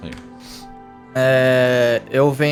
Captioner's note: grumbling